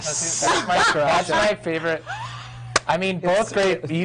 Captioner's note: laughing